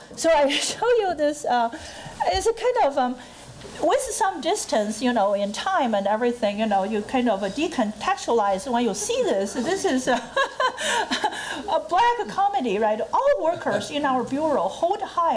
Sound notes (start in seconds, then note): 9.5 laughing